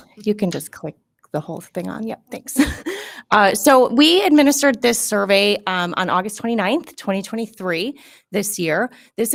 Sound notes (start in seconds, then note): 3.0 laughs